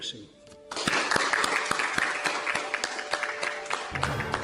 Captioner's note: clapping; dramatic music